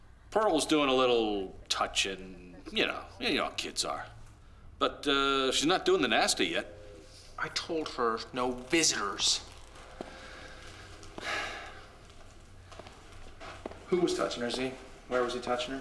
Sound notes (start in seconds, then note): 11.7 sighs